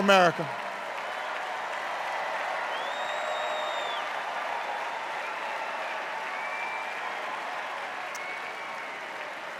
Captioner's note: extended cheers and applause